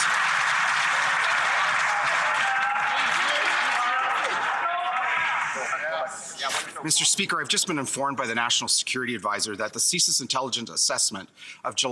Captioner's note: some Applause